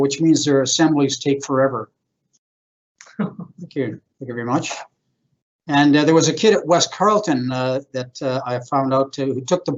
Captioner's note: chuckles